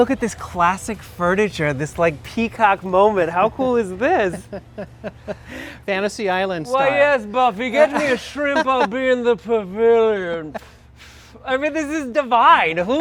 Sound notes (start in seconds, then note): 4.2 chuckles; 10.7 mimics inhaling cigarette